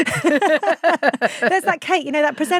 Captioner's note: both laughing